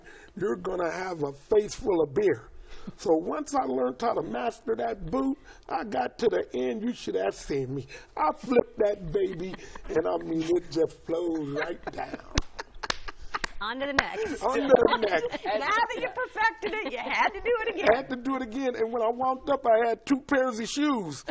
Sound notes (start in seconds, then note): 12.7 laughs